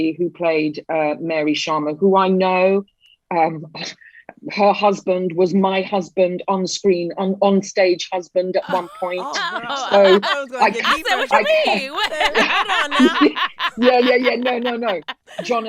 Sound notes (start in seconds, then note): 12.7 laughing